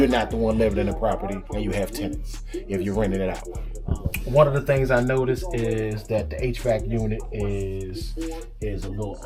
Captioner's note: hvac